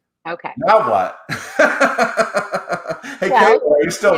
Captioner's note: laughs